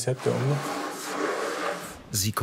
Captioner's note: scratching noises